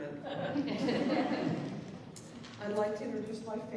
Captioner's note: laughter